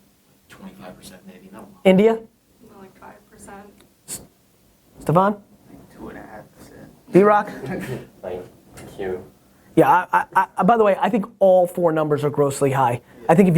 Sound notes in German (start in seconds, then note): 6.1 Voice-over; 7.4 lacht; 8.8 Voice-over